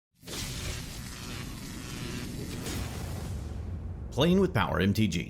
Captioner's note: electricity Buzzing